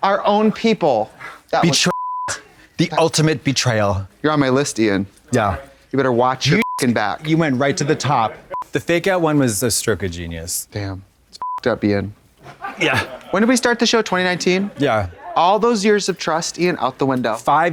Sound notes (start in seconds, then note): 1.8 beep; 6.5 beep; 11.4 beep; 13.1 crew laughing